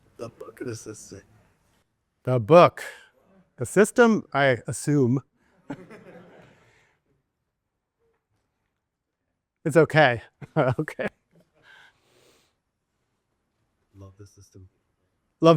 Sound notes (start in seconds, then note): 5.6 students chuckling; 10.4 chuckles